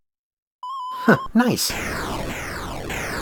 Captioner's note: chuckles